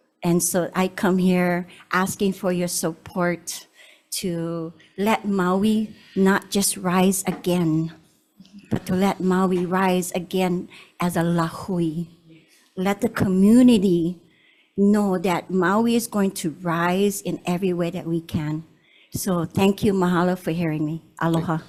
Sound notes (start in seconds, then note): 11.1 speaks foreign language